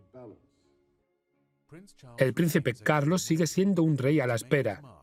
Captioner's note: voiceover